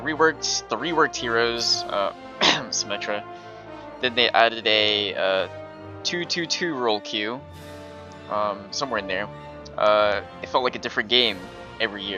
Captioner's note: cough* symmetra